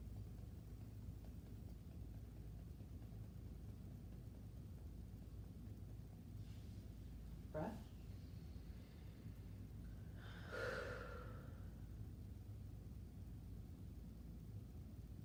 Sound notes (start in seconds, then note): 10.4 breathing deeply